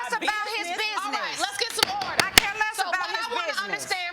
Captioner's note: gavel banging